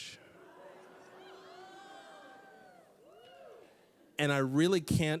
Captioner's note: audience laughing